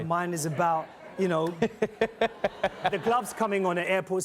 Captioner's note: laughs